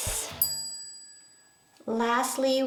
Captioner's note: bell chiming